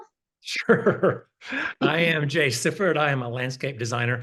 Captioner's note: laughs